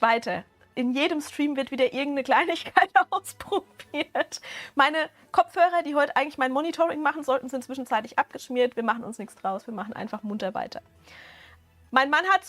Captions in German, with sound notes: weiter. In jedem Stream wird wieder irgendeine Kleinigkeit [Gelächter] ausprobiert. Meine Kopfhörer, die heute eigentlich mein Monitoring machen sollten, sind zwischenzeitlich abgeschmiert. Wir machen uns nichts draus, wir machen einfach munter weiter. Mein Mann hat